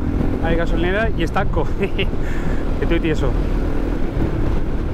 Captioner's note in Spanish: risas